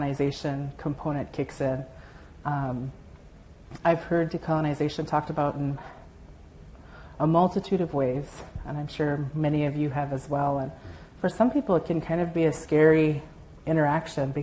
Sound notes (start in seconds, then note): none